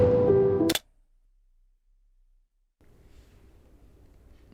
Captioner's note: ominous music; clicking